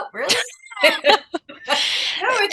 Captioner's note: laughter